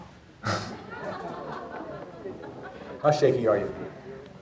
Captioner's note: audience laughing